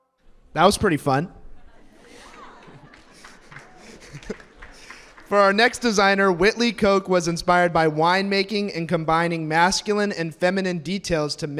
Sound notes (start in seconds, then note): 1.9 audience applauds; 2.3 announcer chuckles